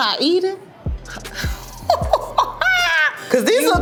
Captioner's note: laughs